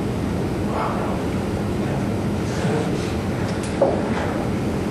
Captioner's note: students mumbling